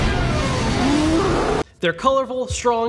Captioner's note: Charizard roars